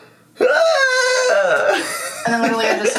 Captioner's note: squealing